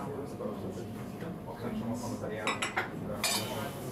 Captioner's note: stage of conversation, clattering of cups